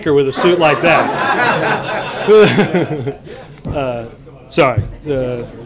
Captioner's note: laughter